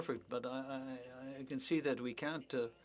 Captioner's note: speaking French